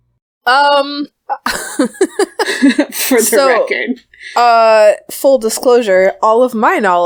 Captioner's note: laughs